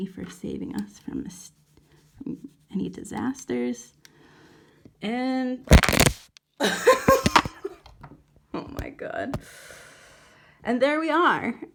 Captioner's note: camera falls over